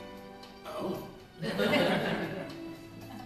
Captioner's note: laughter